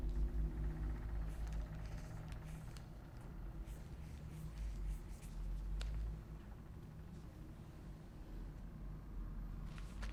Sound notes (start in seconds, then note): 2.1 pen scribbling